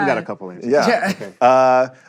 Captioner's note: chuckles